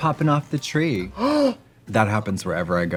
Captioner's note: Trixie gasps